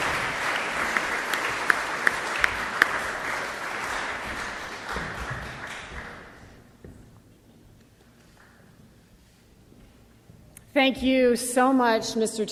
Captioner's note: applause